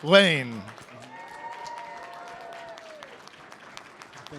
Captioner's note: applause